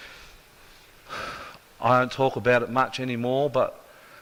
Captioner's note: sigh